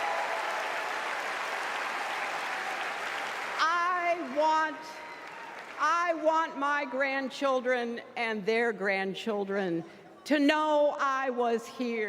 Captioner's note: applause